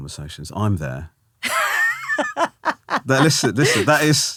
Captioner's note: laughing